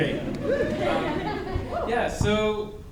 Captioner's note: audience laughing